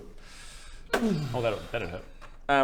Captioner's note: boom